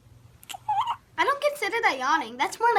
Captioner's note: baby yawning